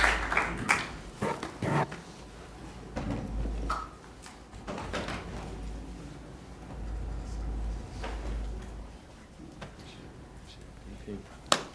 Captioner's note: applause